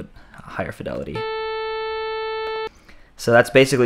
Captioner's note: muffled, Weaker Buzz Sound